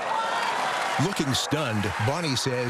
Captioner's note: cheering and applause